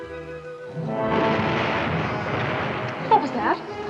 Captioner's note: explosion